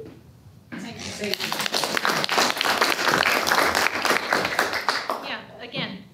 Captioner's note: applause